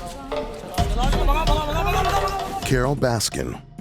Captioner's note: inaudible screaming